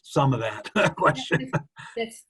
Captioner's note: laughing